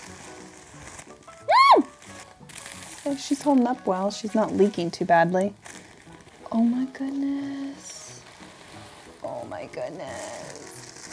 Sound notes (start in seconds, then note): 1.5 squeals